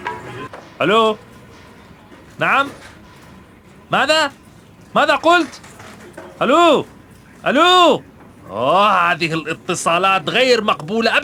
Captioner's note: speaking Arabic